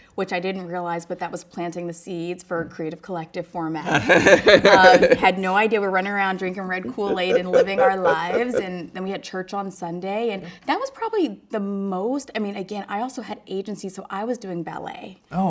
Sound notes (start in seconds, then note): 3.8 laughs